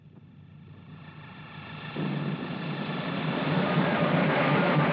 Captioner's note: loud whirring